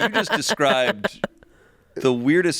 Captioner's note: laughing